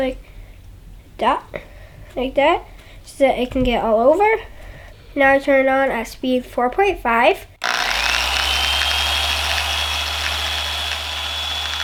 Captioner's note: machine sound